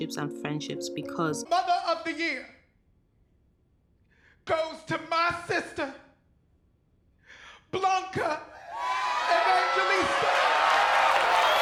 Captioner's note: cheering